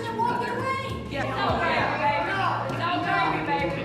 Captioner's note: angry chattering